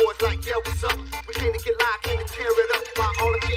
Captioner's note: cellphone rinings